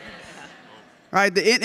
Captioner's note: audience laughs